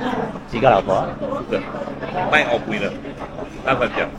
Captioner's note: Penang accent